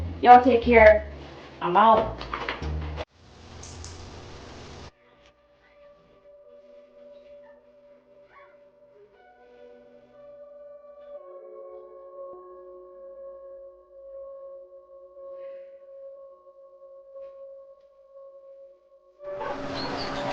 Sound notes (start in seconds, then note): 3.5 cleaning rag squeaking; 3.5 slow music; 19.4 birds chirping; 19.4 engines rumbling